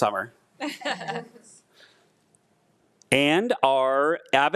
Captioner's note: attendees laughing